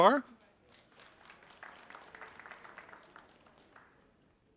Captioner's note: audience applauding